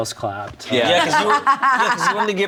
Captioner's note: laughs